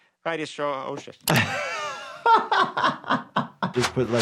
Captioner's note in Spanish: se ríe